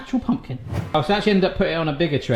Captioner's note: air whooshing